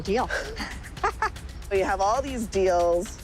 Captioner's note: laughs